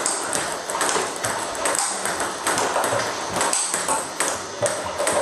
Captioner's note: ball ping pong hitting continues